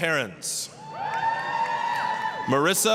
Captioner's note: applause, cheering